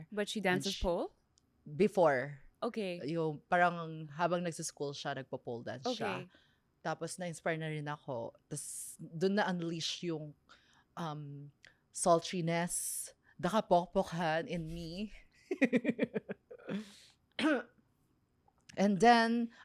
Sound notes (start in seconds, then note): 15.6 laughs